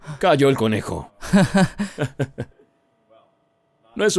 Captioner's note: risas